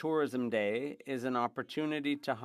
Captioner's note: speaking French